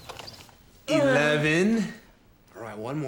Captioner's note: strains